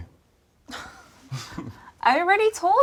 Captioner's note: both laughing